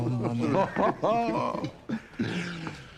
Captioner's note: tertawa